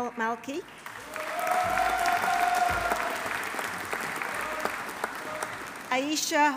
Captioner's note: audience applauding; audience cheering